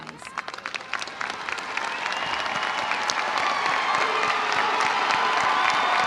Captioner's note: audience applauding; audience cheering